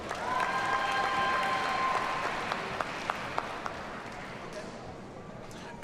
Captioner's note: audience cheers and applauds